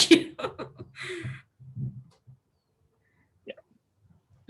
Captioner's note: laughs